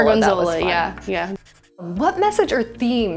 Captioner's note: pencil scratching